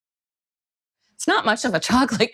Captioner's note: laughing